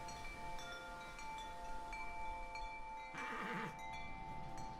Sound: neighing continues

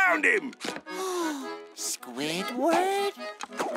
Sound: gasping

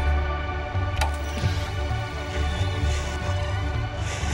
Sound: TV clicks

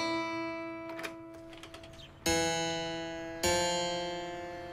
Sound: upbeat music; door opening

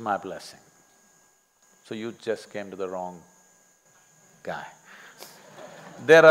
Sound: laughter

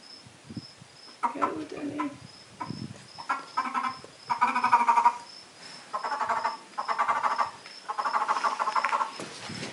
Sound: frog croaks

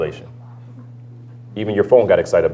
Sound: phone rings

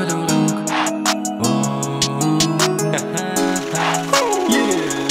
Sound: ha ha ha

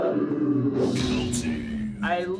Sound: everyone groaning in slow motion; voiceover

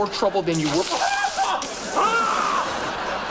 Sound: shrieking

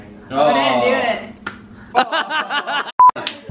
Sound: clapping; laughing

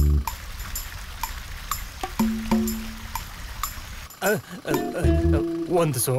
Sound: water Sound

